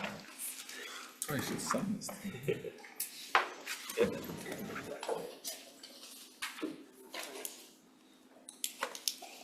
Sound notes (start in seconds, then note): 3.9 indistinct conversation